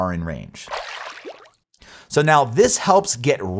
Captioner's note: graphics splash